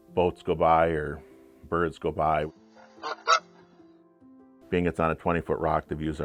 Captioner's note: goose honks